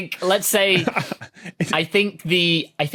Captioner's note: laughs